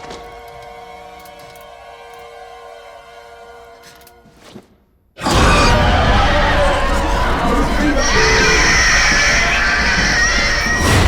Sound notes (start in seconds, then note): 5.2 demon screeching